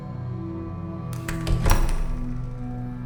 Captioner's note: door Closing